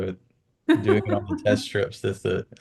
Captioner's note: laughs